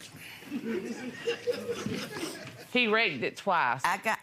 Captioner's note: audience laughing